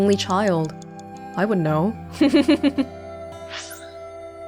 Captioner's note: chuckles